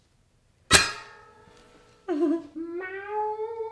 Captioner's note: ching; laughs